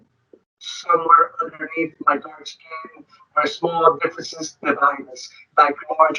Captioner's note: speaking distorted